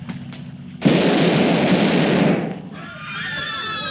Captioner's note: gunfire pops; people screaming